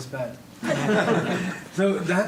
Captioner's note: laughing